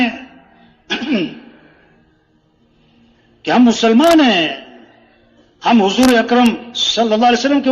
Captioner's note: गला साफ करते हुए